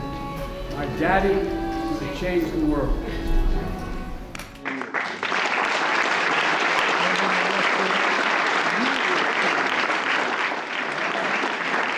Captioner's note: applause